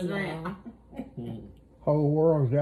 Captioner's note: laughs